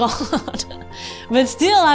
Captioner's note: laughs